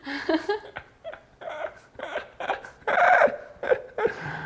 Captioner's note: laughing